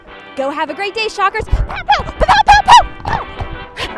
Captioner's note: sighs